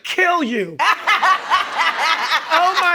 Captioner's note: laughing